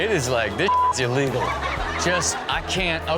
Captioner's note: audience laughs